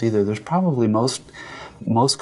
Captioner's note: quick breath in